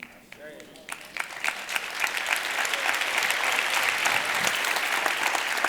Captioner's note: audience applauding